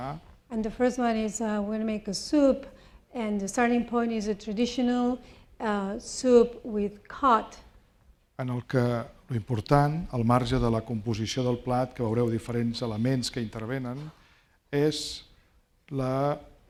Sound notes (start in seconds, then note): 8.8 speaking spanish